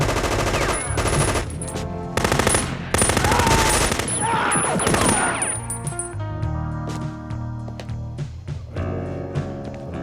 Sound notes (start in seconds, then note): 0.3 machine gun firing; 3.2 man screaming